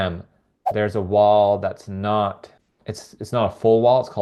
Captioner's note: text whooshing